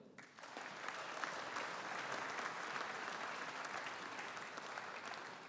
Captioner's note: audience applauding